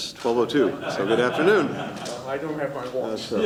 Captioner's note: laughter